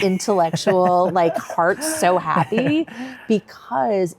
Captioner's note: chuckles